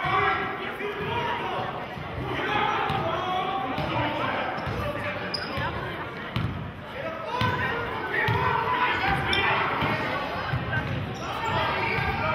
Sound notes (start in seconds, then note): 9.6 yelling